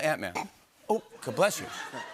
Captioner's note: faux sneezes